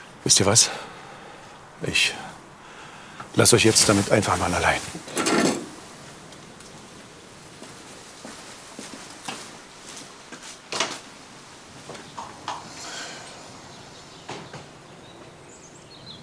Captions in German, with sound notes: Wisst ihr was? Ich ... lass euch jetzt damit einfach mal allein. (Klappern) (Leises Seufzen) (Idyllisches Vogelgezwitscher)